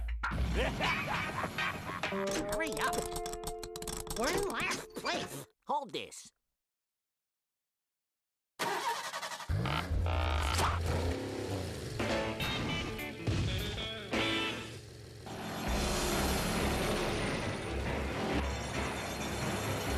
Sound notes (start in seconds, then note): 0.5 Sam laughing; 8.6 engine starting